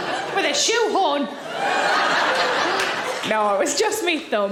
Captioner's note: audience laughing